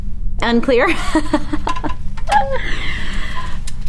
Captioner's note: laughs